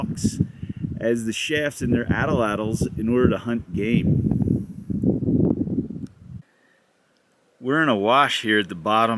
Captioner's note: wind blowing